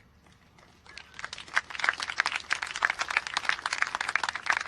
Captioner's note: applause